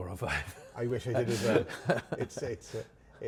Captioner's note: laughing